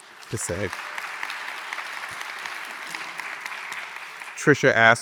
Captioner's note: audience applauding